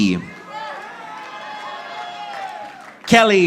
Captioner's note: audience applauding